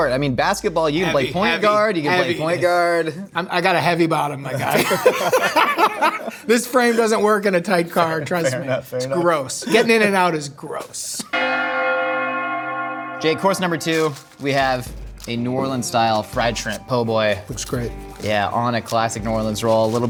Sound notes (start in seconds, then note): 4.6 laughing; 11.3 bells Ringing